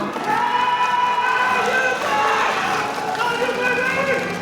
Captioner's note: audience cheering; audience applauding